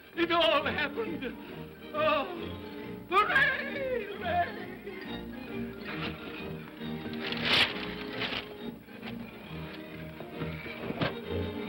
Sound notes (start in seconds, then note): 5.4 upbeat whimsical music; 7.1 shades clatter; 9.0 upbeat whimsical music